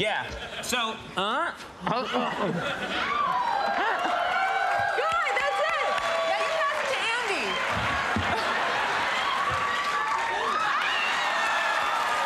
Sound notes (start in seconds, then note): 7.8 crowd cheering